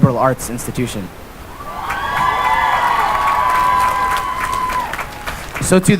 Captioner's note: cheering and applause